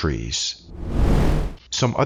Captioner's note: air whooshing